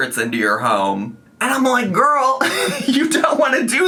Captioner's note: laughs